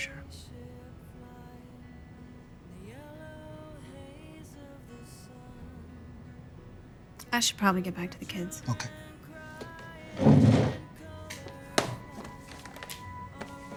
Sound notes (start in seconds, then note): 9.5 chair scraping; 11.7 laptop clicking shut; 12.5 tense music